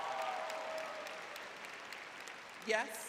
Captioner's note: crowd cheering